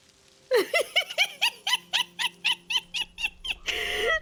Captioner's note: giggling